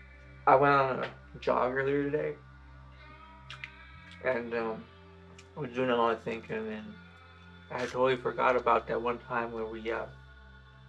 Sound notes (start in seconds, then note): 3.5 mouth smacking